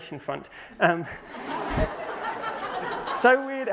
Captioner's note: laughter